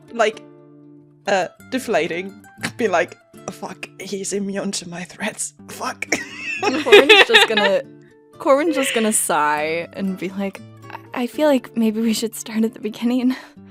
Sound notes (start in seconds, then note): 6.1 laughter; 6.4 laughs